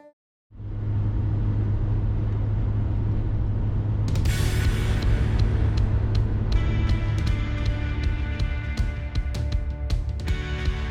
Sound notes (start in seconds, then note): 0.5 light road noise